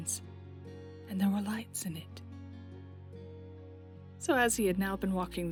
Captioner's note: none